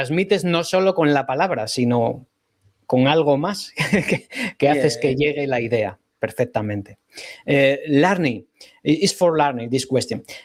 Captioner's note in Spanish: risas